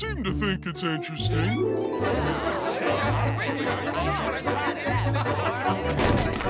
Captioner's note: chattering